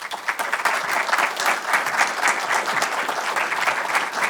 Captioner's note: audience applauds